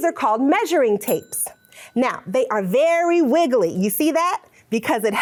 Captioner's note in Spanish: tintinea la campana